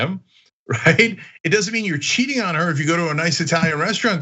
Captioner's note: laugh